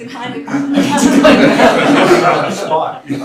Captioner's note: laughter